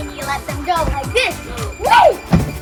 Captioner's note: shouts